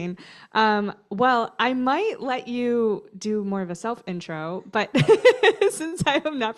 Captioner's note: laughter